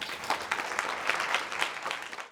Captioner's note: applause